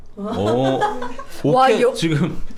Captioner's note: confident